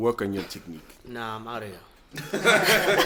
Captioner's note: everybody laughs